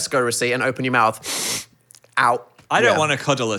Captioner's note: sniffs